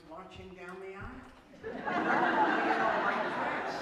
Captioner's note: laughter